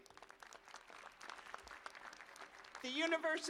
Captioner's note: applause